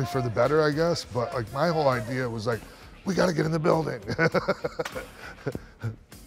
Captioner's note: laugh